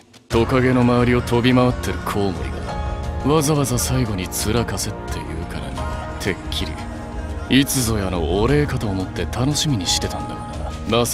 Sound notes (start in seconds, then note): none